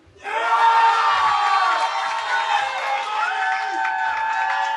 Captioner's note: cheering